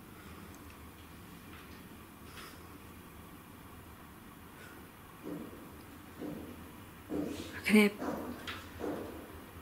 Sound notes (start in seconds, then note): 7.0 faint banging